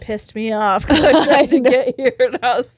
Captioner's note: all laughing